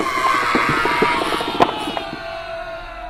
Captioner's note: Mr. Punch screams